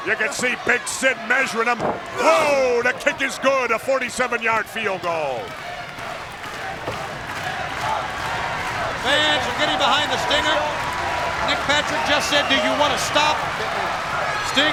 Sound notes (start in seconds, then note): 5.3 crowd chants "Stinger"